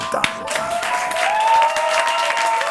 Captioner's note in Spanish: Aplausos